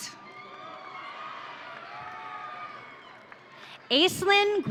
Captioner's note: audience cheering